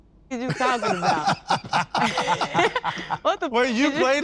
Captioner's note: all laughing